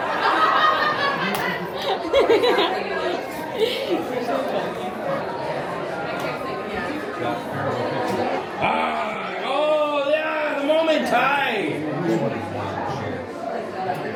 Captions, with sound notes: [Laughter] You're so funny. Oh ah, the moment ai.